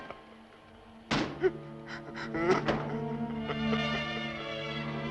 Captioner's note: Morgan sobbing